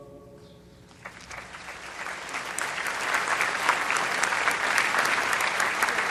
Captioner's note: applause